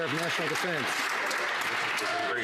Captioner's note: some Applause